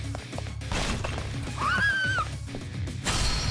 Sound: laughs

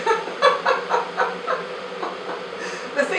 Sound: laughing

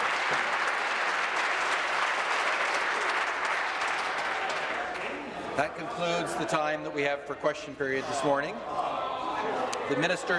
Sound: applause

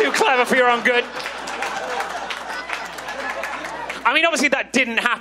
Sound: audience laughs and claps

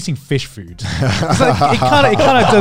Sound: laughs

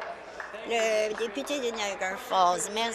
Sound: applause

